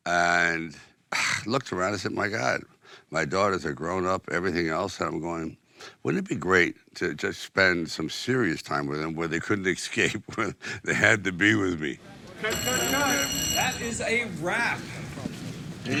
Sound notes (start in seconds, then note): 12.4 bell ringing